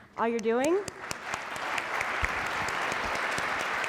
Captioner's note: applause